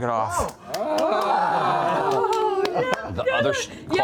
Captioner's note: relieved cheering